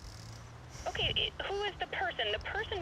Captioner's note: voice on Other End of Phone